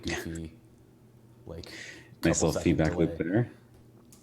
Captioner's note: laughing